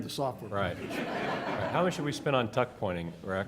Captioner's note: laughter